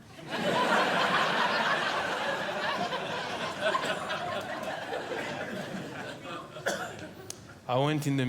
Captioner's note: audience Laughing